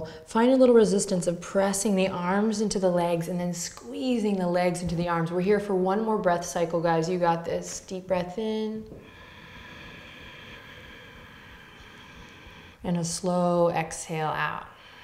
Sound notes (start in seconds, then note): 9.0 inhaling